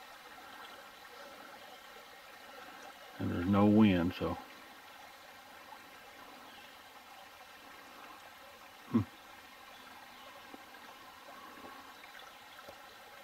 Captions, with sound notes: (burbling water) And there's no wind. (burbling water)